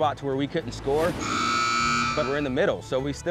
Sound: buzzer sounds

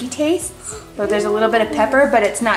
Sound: gasps

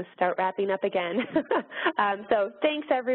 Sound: laughter

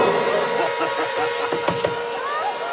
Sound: laughing

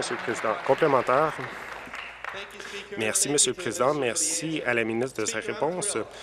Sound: applause

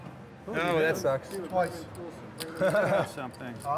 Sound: laughs

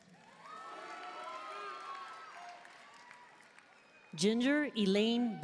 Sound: audience cheering and applauding

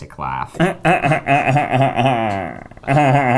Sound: laughing

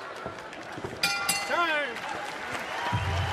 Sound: bell rings

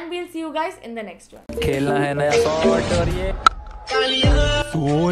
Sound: bonk

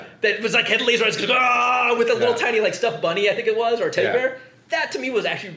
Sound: aggggghhhhhh

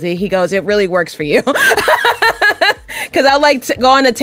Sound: laughs

